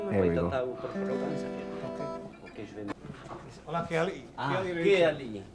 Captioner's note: speaking Tahitian language